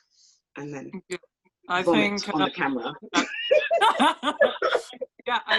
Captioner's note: laughs